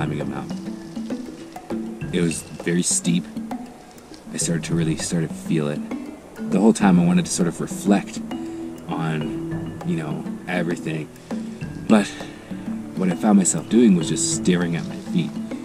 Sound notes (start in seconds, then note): none